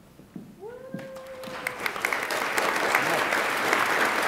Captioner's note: attendees applaud